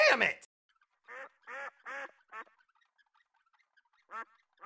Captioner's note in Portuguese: Quacking